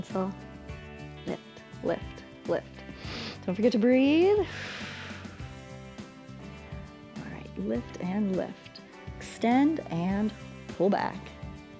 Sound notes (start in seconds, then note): 2.8 inhales; 4.4 exhales